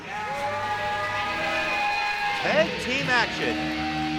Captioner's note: crowd cheering